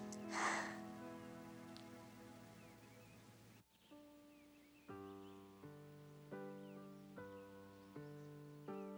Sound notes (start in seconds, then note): 0.1 Caddie sighs; 4.4 gentle music